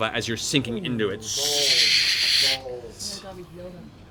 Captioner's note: sizzling